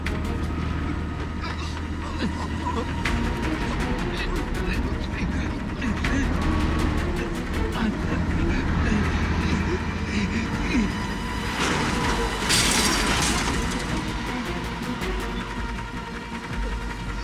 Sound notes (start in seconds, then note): 12.3 gate crashes